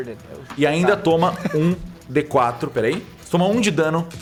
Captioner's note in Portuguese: risadas